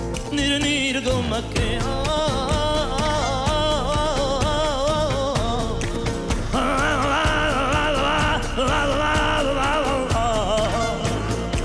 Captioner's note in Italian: canticchia